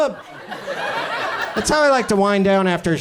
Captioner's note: audience laughs